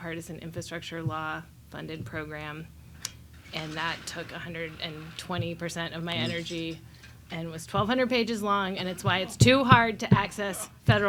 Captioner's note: laughs and applauds